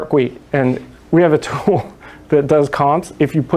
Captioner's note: chuckles